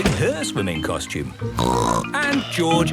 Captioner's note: snorts